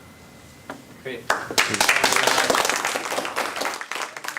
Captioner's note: applause